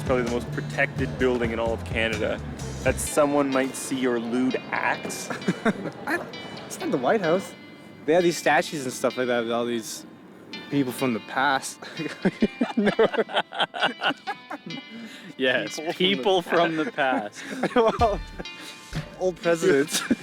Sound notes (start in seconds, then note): 5.2 laughing; 12.0 laughter